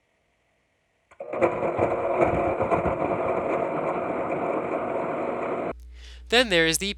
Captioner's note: blender whirring